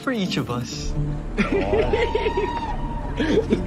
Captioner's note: laughing